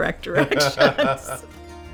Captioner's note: laughing; background music